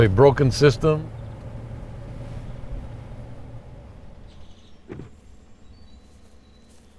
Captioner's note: birds chirp softly